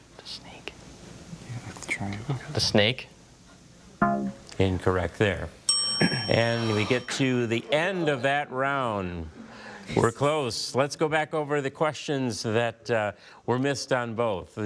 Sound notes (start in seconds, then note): 4.0 bell blares; 5.7 bell chimes